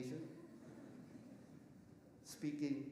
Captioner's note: audience laughing softly